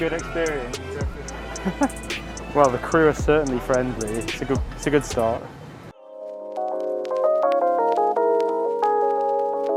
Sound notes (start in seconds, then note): 0.8 laughs; 5.9 mellow music plays